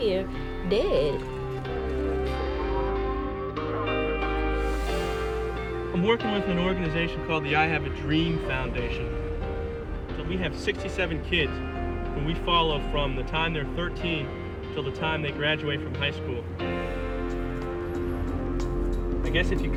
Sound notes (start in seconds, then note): 2.2 police radio chatter